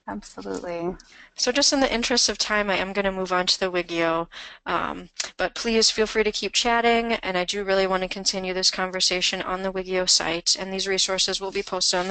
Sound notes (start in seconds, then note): 0.3 voiceover